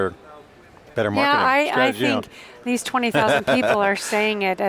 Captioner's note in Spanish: risas